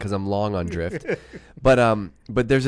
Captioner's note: laughing